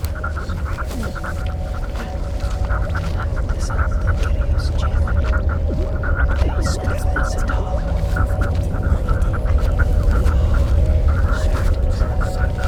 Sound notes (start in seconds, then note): 0.1 space sounds; 4.1 intense Celtic whispers